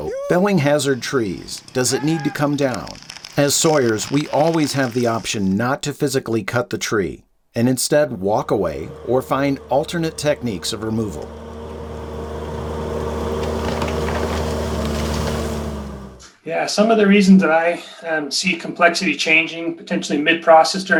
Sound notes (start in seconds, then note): 11.8 bulldozer revving